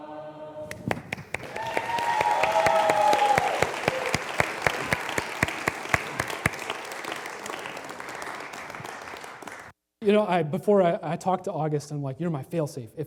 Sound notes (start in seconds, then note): 1.8 applause